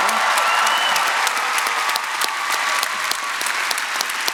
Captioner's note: audience applauding